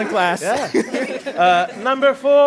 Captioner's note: laughter